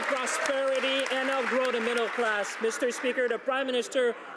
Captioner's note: some Applause